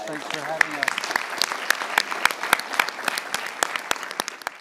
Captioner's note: applause